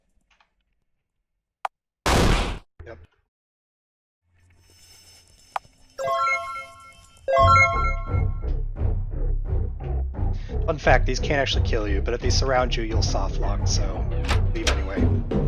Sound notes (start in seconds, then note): 2.1 bang; 7.4 dramatic music